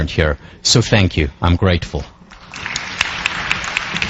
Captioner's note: applause